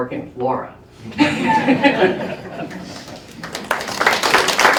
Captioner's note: laughter; applause